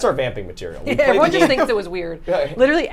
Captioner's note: group chuckles